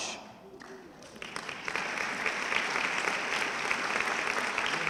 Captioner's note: audience clapping